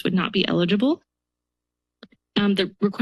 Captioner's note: pause